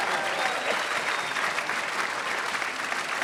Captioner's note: attendees cheers and claps; attendee coughing; attendees clapping